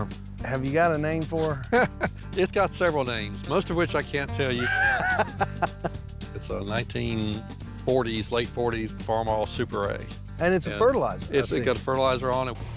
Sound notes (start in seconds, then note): 1.8 chuckles; 4.6 laughs